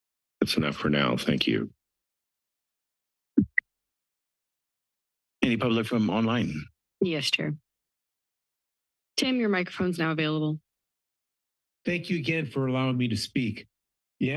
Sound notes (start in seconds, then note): 7.8 pause